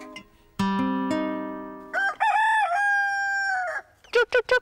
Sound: rooster crows

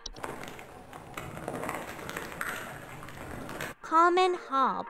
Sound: crunchy sounds and ambient basement noises

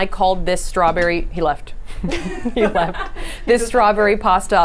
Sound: laughs

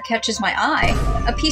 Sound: Vine Boom

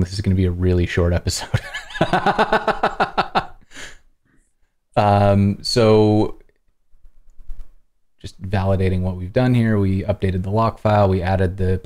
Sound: laughter

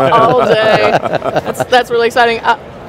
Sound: all laughing

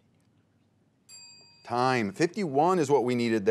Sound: teammates whisper; bell rings

